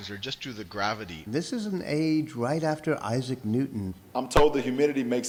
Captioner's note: voiceover; voiceover